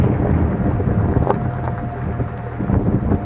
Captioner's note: wind noise